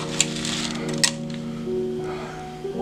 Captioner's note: exhales